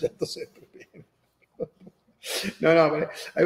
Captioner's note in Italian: Risate